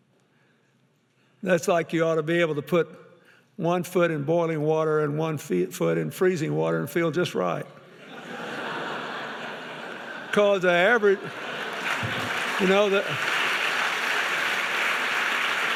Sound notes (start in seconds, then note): 7.9 audience laughing; 10.9 audience applauding